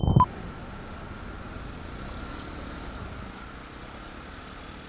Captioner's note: traffic humming